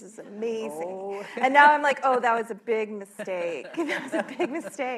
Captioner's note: laughter